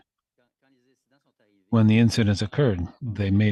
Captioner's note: speaking French